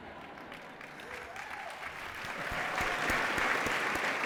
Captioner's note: applause